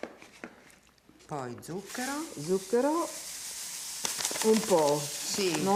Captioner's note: speaking Italian